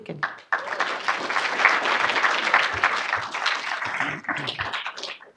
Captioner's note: audience applauding